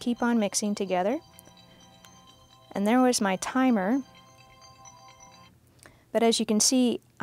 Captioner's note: timer beeping